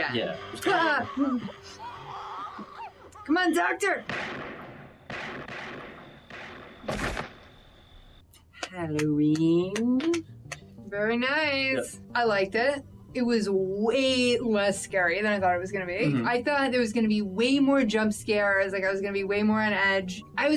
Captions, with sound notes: - Yeah (jump scare) - Come on, doctor! (Gunshots) - Halloween (clapping) - Very nice! I liked it. It was way less scary than I thought it was gonna be. - Mhm. I thought there was gonna be way more jump scares, like I was gonna be way more on edge.